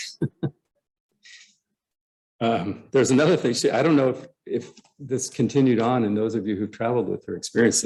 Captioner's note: laughter